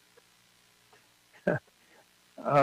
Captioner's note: laughter